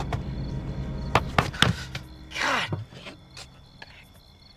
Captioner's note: rap on car window